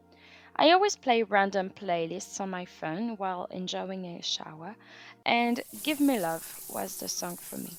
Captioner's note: shower sound